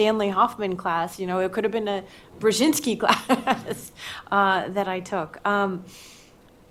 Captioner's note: laughs